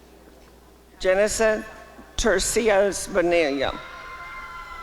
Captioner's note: applause and cheering